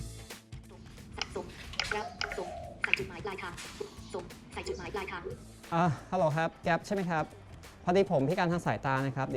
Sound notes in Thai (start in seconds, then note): 1.0 เสียงพนักงานตอบรับทางโทรศัพท์